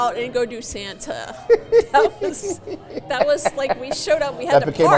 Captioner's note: Santa chuckling